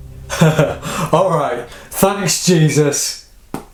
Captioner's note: laughing